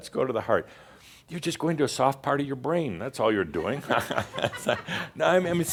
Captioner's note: some chuckles